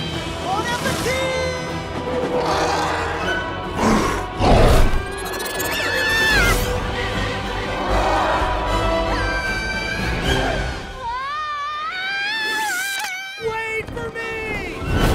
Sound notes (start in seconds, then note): 1.9 Ladybug screaming; 2.1 snarl; 7.7 Ladybug's shouts echoing